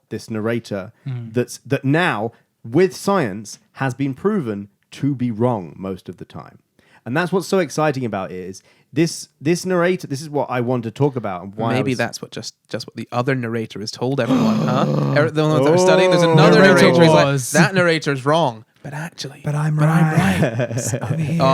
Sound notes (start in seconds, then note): 17.0 laughing